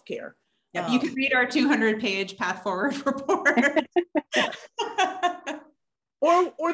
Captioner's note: laughs